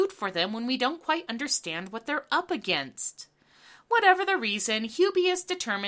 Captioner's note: none